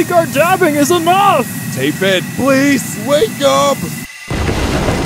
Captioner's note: thick accent